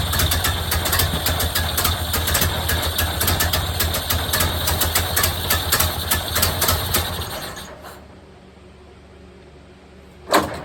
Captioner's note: engine cranking; engine sputtering/idling